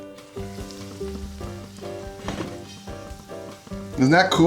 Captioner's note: bright music; oil sizzling